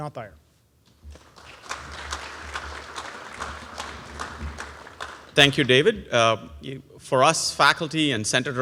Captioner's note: applause